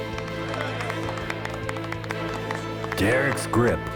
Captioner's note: applause